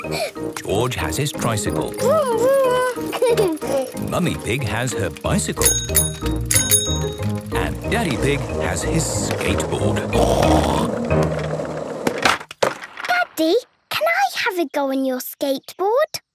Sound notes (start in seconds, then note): 2.0 giggles; 5.5 bicycle bell dinging; 9.7 snorts